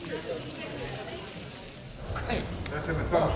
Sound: chatter

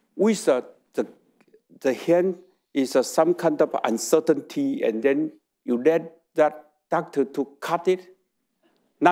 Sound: none

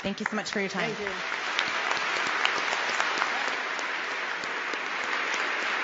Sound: applause

